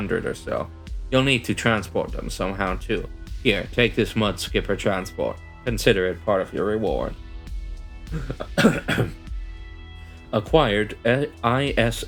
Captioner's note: cough cough